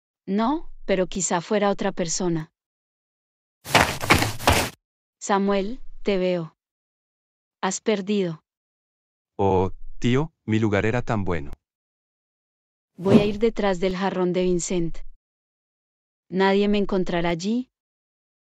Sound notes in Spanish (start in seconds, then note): 3.6 FX - Footsteps - On Multiple Dirt - Run; 12.8 FX - Whoosh - 03